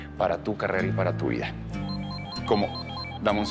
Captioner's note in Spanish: Suena el celular